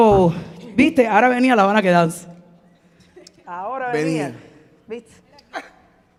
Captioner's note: speaking in Spanish